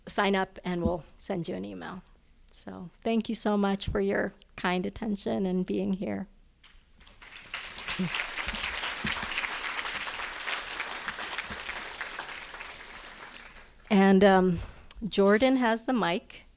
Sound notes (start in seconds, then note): 7.0 applause